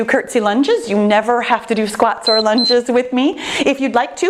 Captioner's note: timer beeping